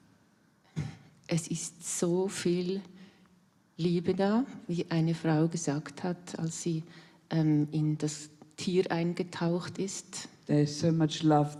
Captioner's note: in German